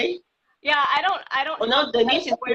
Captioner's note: laughing